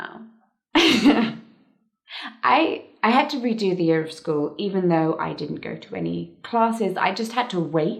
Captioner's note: laughs